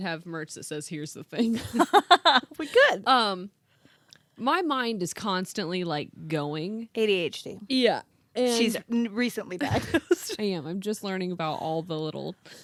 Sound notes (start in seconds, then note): 1.4 laughing